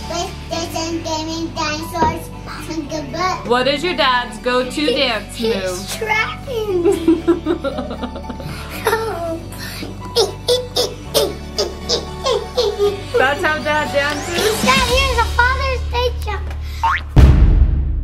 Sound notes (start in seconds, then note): 6.8 laughs; 10.3 exclaiming